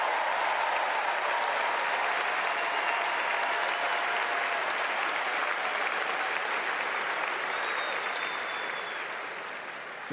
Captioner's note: cheers and applause